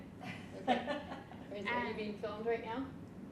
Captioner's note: woman laughs